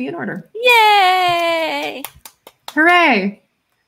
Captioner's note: clapping